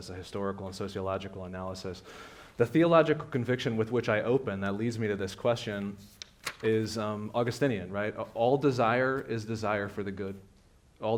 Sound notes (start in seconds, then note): none